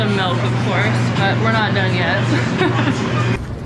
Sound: laughs

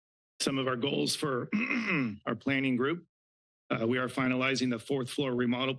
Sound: clears throat

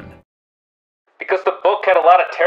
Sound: as if being shouted through a megaphone

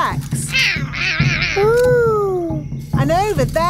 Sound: roaring

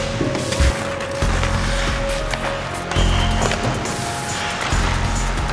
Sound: skates clatter

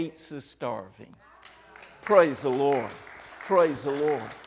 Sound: applauding

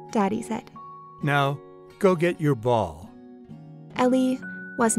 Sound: voiceover

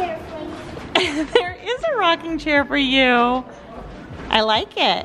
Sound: chuckles

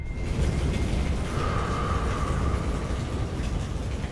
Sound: flames blazing

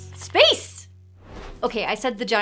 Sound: air whooshing

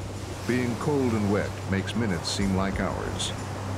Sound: voiceover

